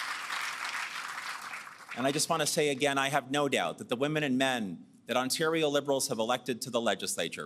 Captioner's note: applause